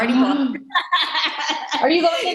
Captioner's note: laughing